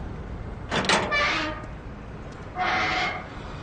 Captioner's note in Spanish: Rechinido de bisagras